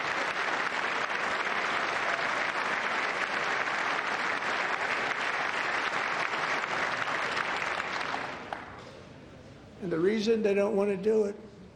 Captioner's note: applause